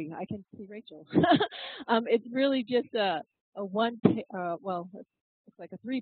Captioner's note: laugh